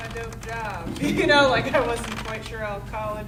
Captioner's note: audience laughing